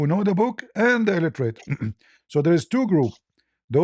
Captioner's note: berdehem